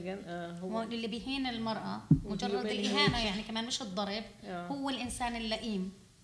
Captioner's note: speaking arabic